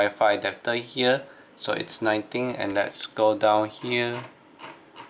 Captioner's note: mouse scrolling